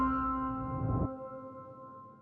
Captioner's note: bright music; whoosh